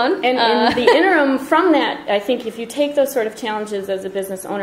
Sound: voiceover

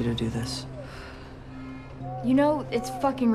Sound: sighs

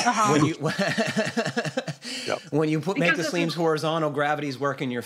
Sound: laughs

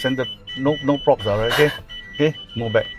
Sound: panics

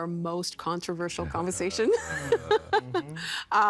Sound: laughing

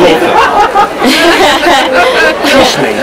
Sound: laughs

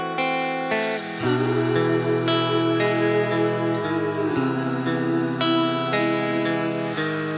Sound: oooo

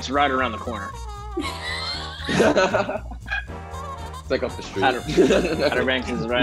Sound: laughs

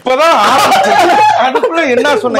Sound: screams

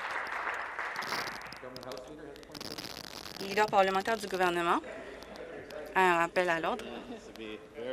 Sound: applause

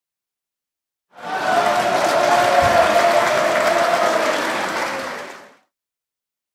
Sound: sound of applause

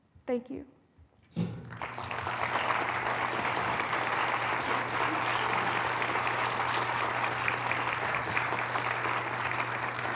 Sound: applause

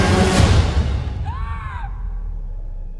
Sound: screaming

